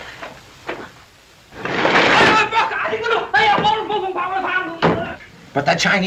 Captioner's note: screams in Chinese